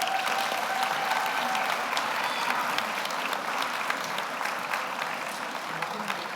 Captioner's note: audience cheers; audience applauds